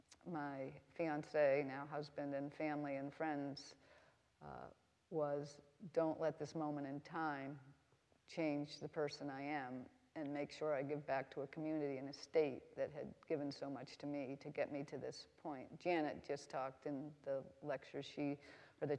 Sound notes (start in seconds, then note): none